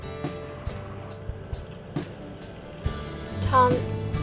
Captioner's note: vehicle idles